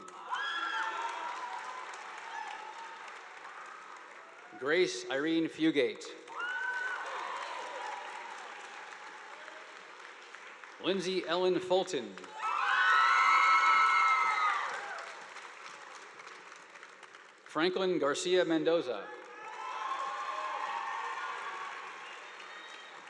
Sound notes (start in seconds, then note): 0.0 audience applauding; 6.2 audience applauding; 12.3 students cheering; 19.0 audience applauding